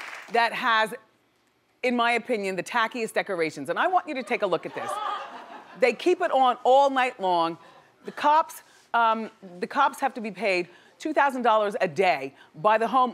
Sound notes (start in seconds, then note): 4.6 audience laughing